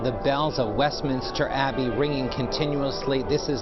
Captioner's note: bell rings